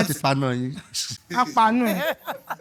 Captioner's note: laughs